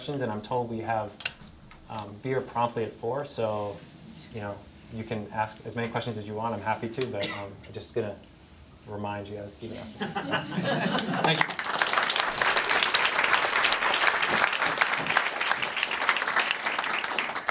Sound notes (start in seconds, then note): 9.8 laughter; 10.8 applause